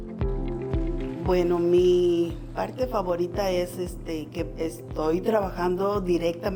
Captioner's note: speaking in foreign language